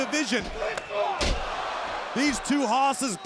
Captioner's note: crowd groaning